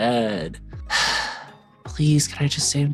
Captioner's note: sighing